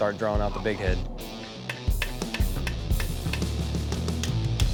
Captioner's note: hammer tapping